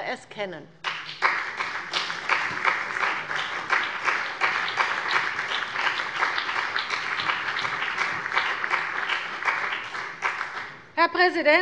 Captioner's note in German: Beifall bei dem BÜNDNIS 90/DIE GRÜNEN und der CDU